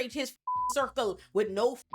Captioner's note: beep